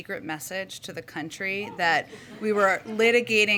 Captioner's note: laughter